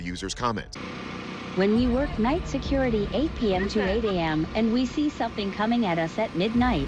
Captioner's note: robotic voice reading